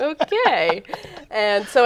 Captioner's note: laughing